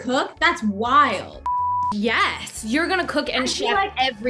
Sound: beep

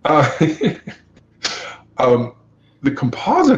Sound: laughs

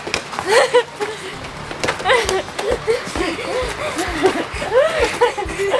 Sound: kids laughing and breathing hard

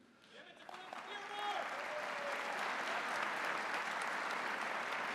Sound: audience applauding

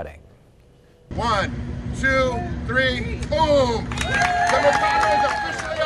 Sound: scream

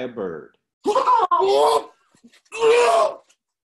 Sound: yelling

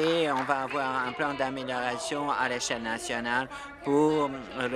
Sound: applause

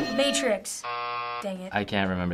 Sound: buzzer

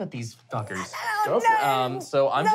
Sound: squealing

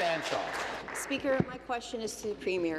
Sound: applause

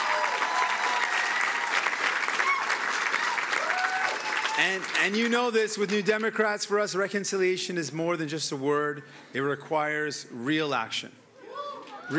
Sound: cheering and Applause

